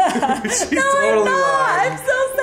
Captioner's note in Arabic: يضحك